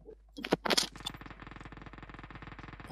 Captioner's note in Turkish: Silah sesleri